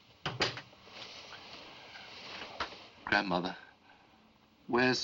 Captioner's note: door Closes